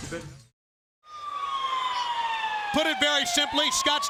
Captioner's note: siren wails